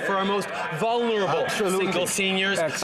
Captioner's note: some Applause